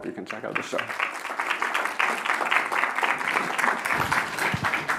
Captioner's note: applause